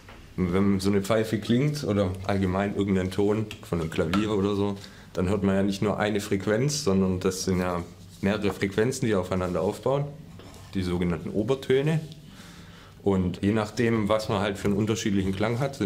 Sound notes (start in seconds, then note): none